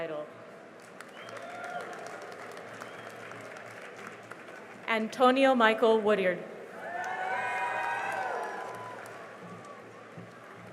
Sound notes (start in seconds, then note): 0.8 cheering and applause; 6.7 cheering and applause